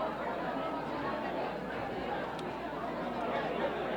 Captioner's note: mumbling